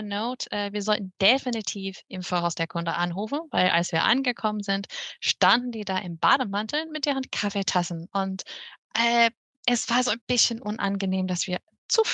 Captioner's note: speaks german